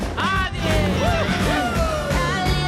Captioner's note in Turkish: motor sesleri